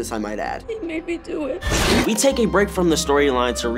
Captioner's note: screeching